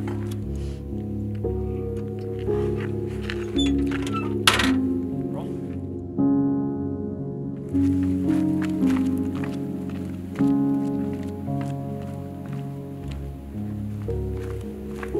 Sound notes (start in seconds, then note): 2.6 hinges squeaking; 7.7 footsteps crunching